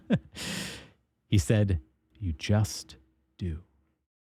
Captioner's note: laughs